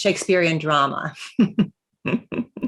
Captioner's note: chuckles